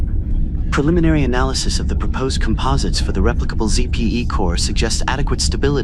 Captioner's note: calmly